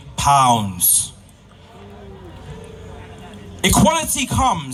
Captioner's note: murmering from the crowd